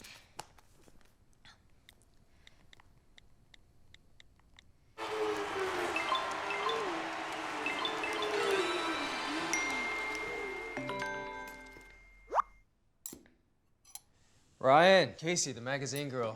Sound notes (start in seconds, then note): 5.0 engine revving over TV; 9.8 phone dings